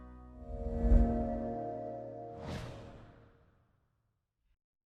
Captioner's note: air whooshing